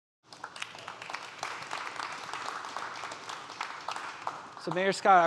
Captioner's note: audience applauding